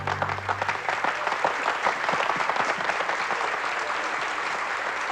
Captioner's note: applause